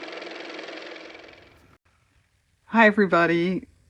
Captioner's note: car motor